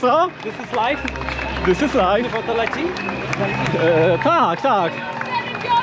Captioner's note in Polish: Aplauz